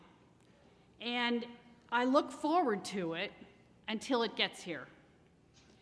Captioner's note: none